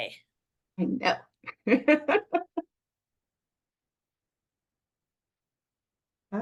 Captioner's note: laughs